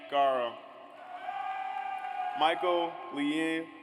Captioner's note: audience cheers